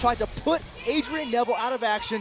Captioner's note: bell ringing